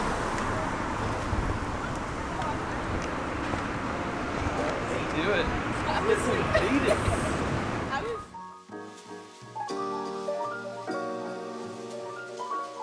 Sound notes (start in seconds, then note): 5.6 traffic whooshes